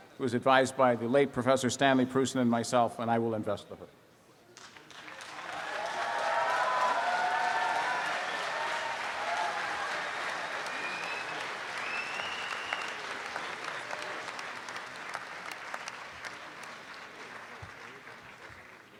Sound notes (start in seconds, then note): 4.6 students clapping and cheering